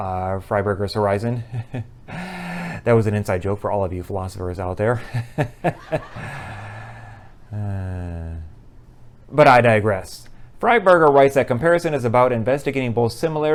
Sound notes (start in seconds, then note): 5.0 laughter; 6.2 sigh